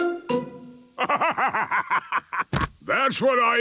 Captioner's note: bursting laughter